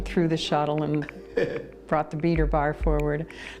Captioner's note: chuckles